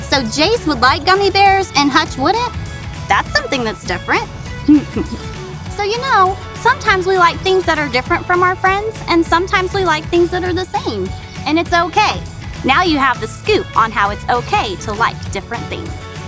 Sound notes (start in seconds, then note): 4.6 woman giggling